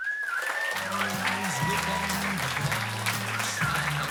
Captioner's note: applause